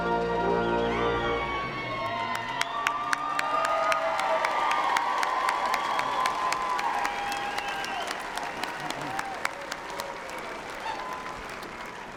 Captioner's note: applause